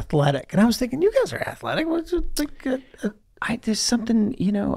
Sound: mutters

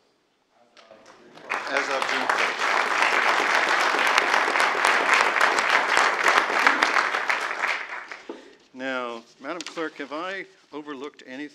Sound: applause

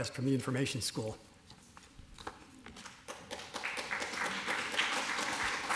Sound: applause

